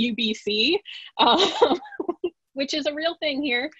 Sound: chuckles lightly

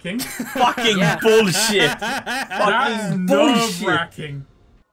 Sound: laughter

